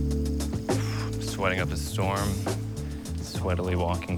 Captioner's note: sighs